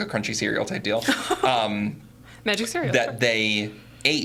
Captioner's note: laughing